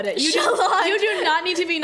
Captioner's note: laughs